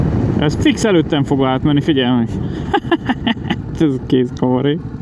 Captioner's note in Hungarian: nevetés